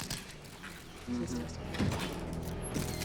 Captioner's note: spectators murmur